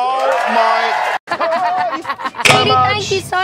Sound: laughter

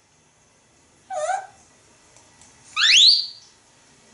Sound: tweet, tweet

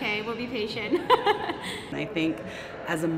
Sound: laughs

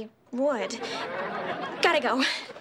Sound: audience laughing

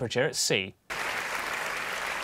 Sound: applause

